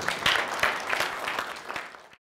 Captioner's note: applause, laughter